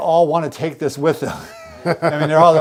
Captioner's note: both laugh